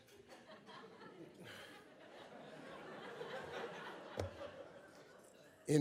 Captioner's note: audience laughs